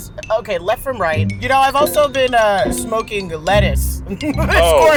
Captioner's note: laughs